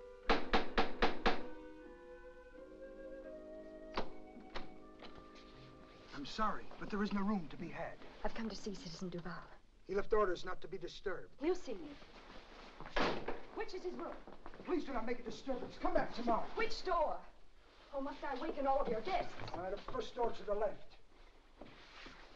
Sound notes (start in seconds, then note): 0.2 rapping on door; 3.9 door opens; 13.0 door closes